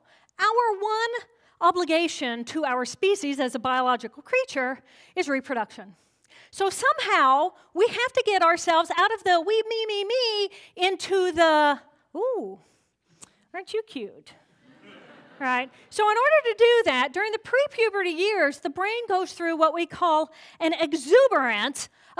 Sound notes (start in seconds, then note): 14.6 laughter